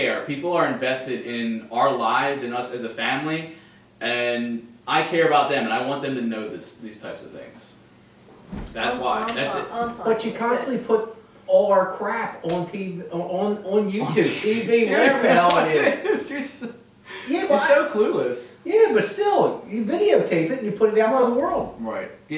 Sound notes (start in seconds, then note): 14.0 laughing; 14.5 mumbling